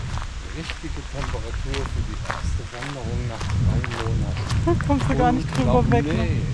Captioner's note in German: lachen